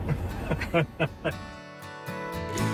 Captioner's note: both laugh; gentle music